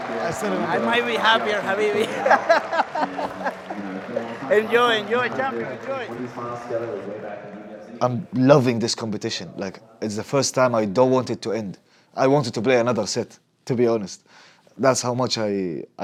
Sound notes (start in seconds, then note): 3.0 laughs